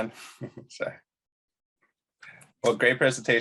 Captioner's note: chuckles